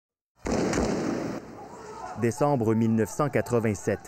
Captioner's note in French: tirs